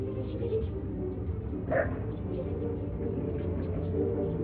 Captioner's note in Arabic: موسيقى مشوقة; ضربات خفيفة; موسيقى مشوقة